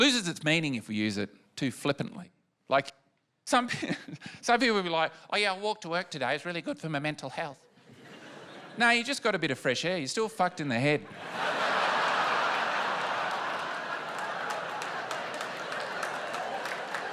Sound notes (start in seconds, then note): 11.1 laughter and applause